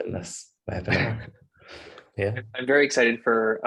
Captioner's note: chuckles